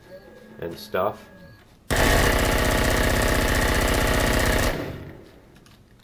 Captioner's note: automatic gunfire